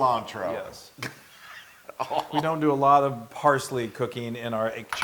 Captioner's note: laugh